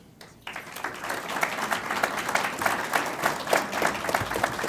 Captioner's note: audience applauds